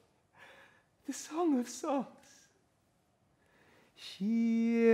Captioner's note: quietly